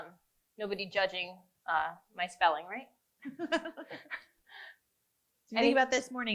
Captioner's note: laughs